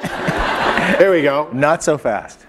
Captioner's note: laughter